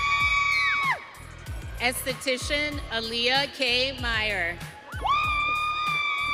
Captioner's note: audience cheering